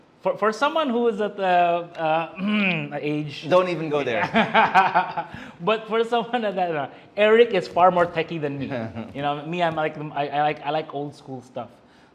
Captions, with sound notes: For someone who is at uh, [ehem] age. - Don't even go there! - [laughs] Eric is far more techie than me. You know, me, I like old school stuff.